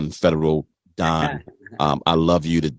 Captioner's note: chuckles